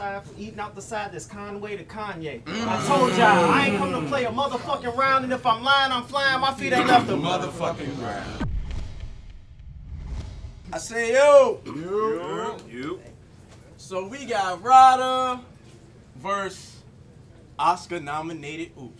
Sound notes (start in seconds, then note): 2.5 audience shouts